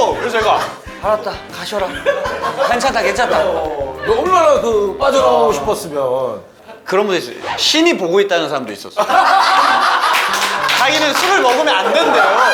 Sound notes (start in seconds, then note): 9.1 ah ha ha ha ha